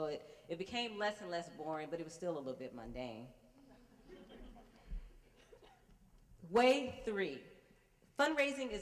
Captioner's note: laugher